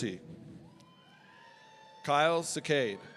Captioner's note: audience cheering